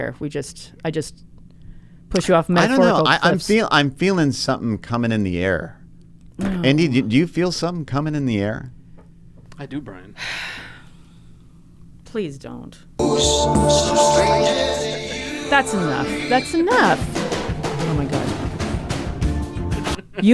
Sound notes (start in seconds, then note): 10.2 sighs; 15.4 drums pounding